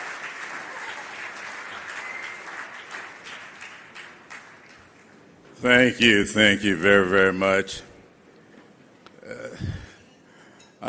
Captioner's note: applause